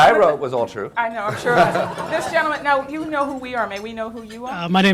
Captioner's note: laughter